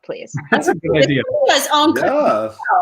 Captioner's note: laughs